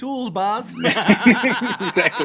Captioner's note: laughter